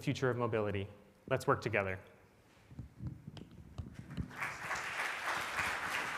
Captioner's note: audience applauds